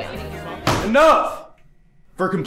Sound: silence

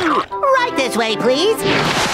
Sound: moaning

